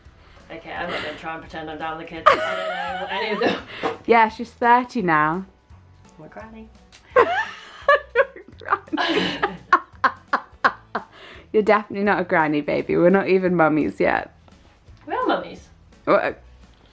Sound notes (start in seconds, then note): 2.2 laughing; 7.1 laughing